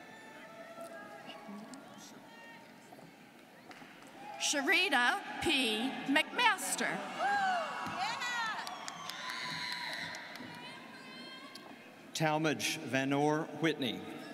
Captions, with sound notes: - Sheritta P. McMaster. (students cheering) - Talmadge Vanore Whitney.